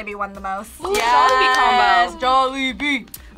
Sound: duo cheering

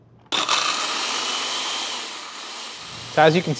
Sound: blender whirring

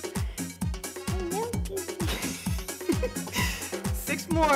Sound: laughs

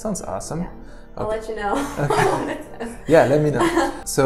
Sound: laughs

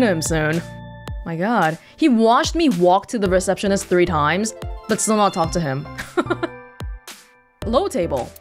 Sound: chuckles

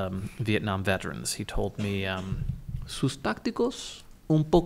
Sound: foreign language

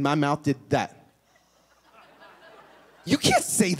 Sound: laughter

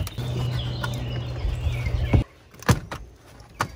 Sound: birds chirping

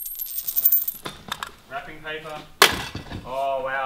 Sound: coins rattling; rattling; clattering

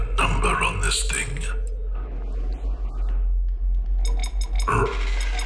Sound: beeps a response, his optic sensor scanning for any additional defects

